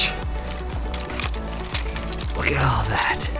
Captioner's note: wood tapping